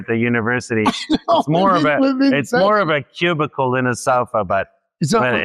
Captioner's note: laughing and mumbling